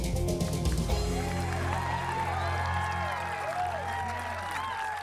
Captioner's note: audience applauds